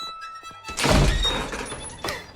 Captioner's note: door slams; panting